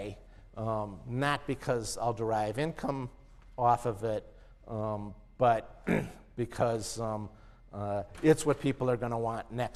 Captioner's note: cough